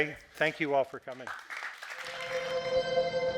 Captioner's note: audience clapping; ambient music